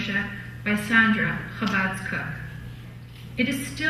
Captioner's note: foreign language